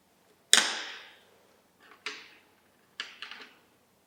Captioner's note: pen bangs